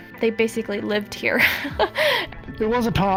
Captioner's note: laughing